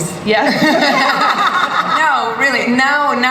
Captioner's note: laughter